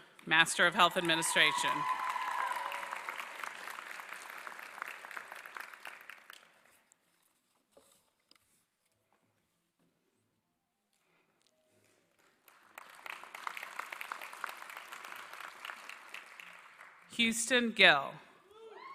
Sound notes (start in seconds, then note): 1.9 applause